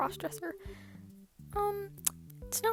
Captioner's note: smacks lips